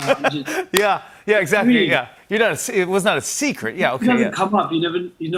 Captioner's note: laughs